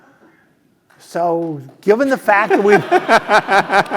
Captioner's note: laugh